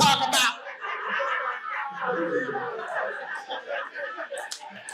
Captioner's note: audience laughing